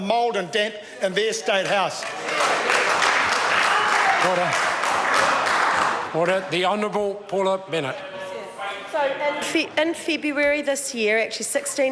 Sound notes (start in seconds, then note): 4.3 members applaud